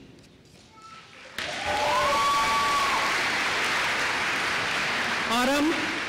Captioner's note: applause